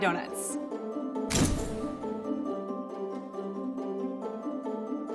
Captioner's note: camera snap